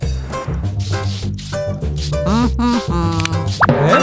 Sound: sighs impatiently

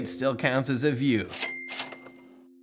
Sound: cash register sound

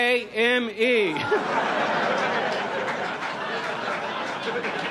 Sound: audience laughs

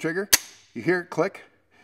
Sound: trigger clicks

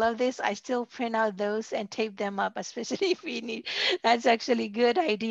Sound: laughter

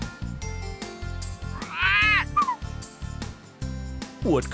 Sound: sound of a parrot

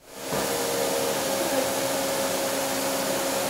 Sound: router whirs

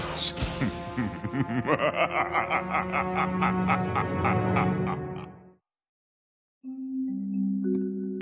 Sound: laughing

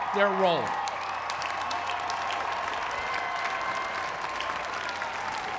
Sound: applause

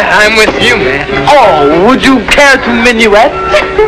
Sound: mockingly

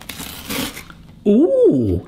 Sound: toast crunching

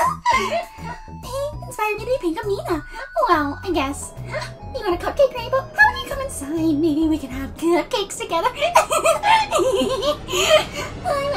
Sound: laughing maniacally

